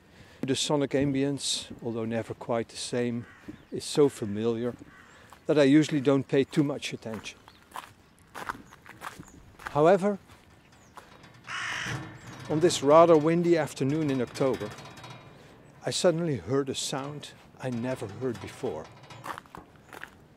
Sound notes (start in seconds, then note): 7.0 footsteps on gravel; 11.5 seagull